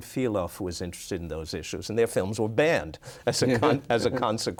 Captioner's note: laughs